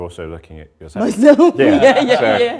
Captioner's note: laughs